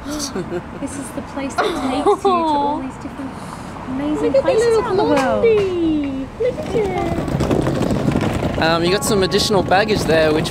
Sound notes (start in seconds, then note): 0.1 chuckles; 6.4 wheels rolling on pavement